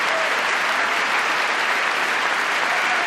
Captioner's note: applause